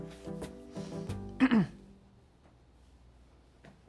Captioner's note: clears throat